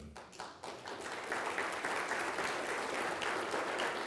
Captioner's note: people applauding